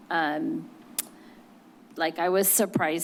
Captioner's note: clicks tongue